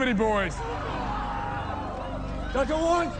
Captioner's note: crowd shouting